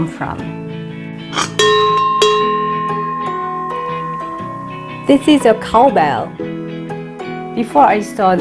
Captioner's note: bell ringing